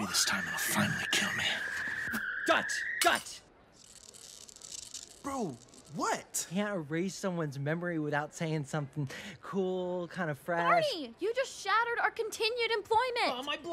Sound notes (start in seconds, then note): 3.3 object breaks